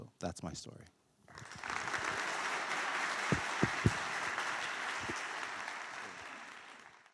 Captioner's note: applause